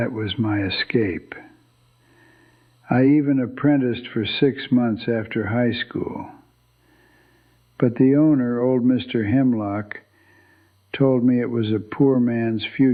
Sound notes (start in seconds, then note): 1.5 whispers